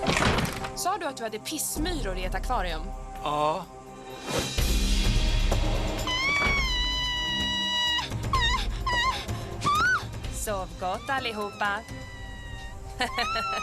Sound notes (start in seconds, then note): 5.4 heather screams; 10.3 giggles